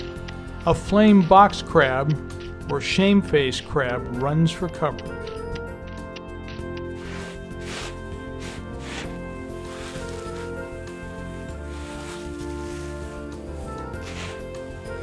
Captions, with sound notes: A Flame Box crab or Shameface crab runs for cover [crab legs walking on sand] [sand moving sound]